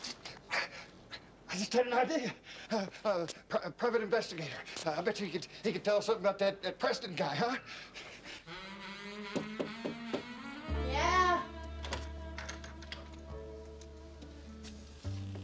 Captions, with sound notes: I just had an idea. A private investigator. I betcha he could tell us something about that Preston guy, huh? [knock on door] Yeah? [door opens]